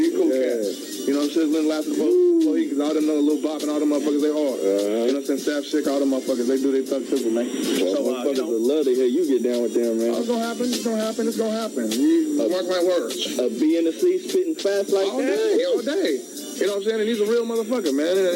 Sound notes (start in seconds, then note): 1.5 rapper murmuring; 7.4 faintly speaks